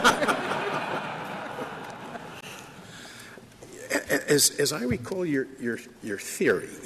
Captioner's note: laughter